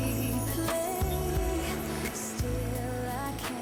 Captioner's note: ocean sounds